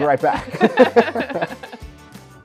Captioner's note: hosts laugh softly; upbeat music continues